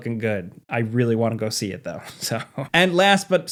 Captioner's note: chuckles